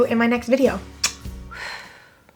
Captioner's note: smacks lips